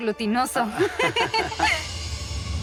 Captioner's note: laughs